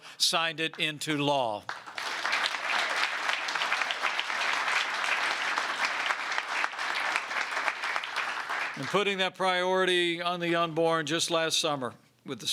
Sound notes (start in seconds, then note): 1.6 applause